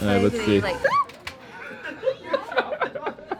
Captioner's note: woman screams; laughing